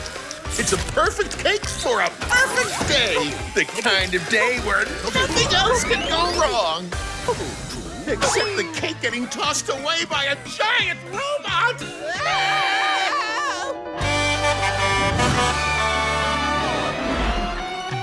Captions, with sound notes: It's a perfect cake for a perfect day, the kind of day where nothing else can go wrong. Trouble. Trouble. Except the cake getting tossed away by a giant robot! [screaming] [Blaze honking]